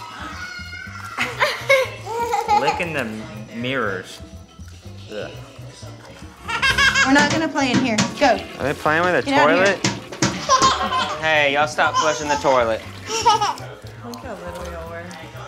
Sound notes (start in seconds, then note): 0.2 gasps; 8.1 toilet flushes; 10.2 kids laughing